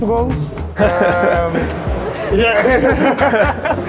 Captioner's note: laughter